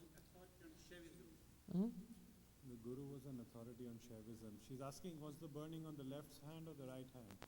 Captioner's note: “He doesn’t know” and speaks in Hindi